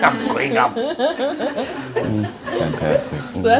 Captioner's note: laughter